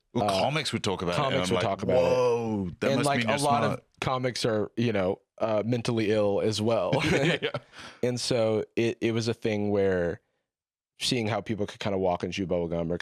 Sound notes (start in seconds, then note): 6.9 laughing